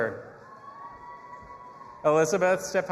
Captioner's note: audience applauding and cheering